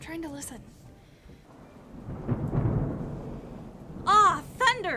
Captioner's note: thunder rumbles